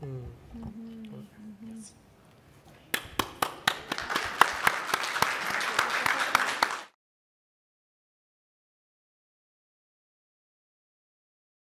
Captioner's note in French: Applaudissements